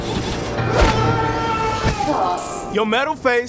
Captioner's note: long yell